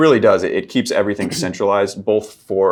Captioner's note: clears throat